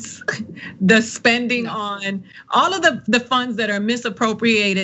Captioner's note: laugh